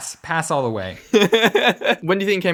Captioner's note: laughs